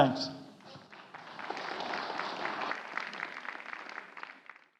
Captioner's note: audience applauding